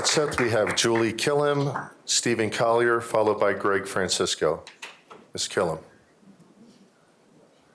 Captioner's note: applause